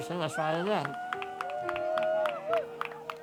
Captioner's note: cheers